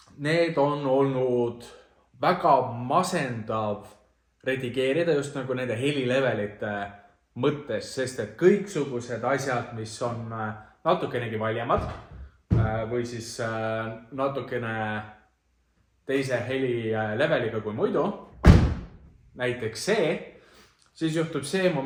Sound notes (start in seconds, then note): 18.4 bangs door